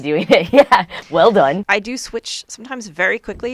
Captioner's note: laughs